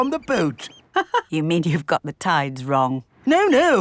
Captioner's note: laughs